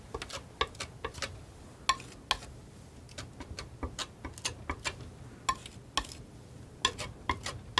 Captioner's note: tapping